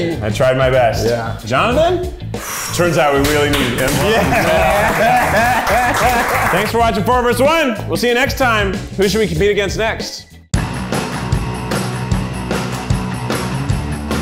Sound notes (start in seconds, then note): 3.4 all applauding and laughing